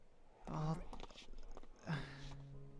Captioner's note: sigh